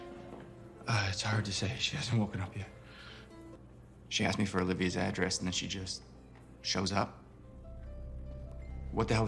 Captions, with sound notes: - Uh, it's hard to say. She hahasn't woken up yet. (sighs) shows up? What the hell was she doing there?